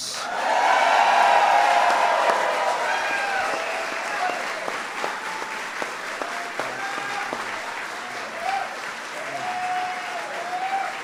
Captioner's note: applause